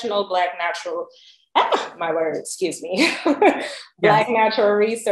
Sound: laughs

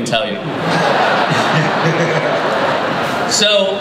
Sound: laughter

